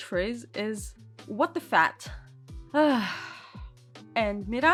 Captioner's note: sigh